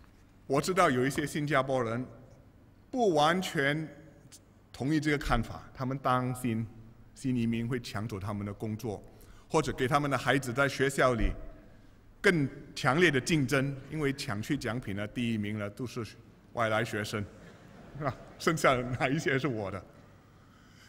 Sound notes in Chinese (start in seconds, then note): 17.3 笑声